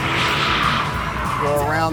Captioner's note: tires screeching